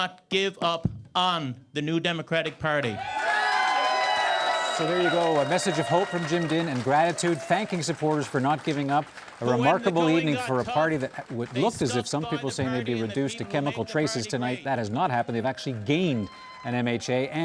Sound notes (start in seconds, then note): 5.4 cheers and Applause